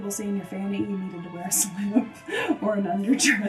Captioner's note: chuckles